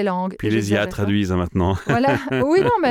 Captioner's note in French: Rires